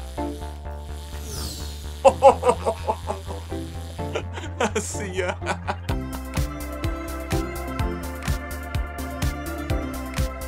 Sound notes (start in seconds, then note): 2.0 laughing; 6.3 upbeat music